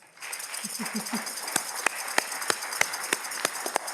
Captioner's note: audience clapping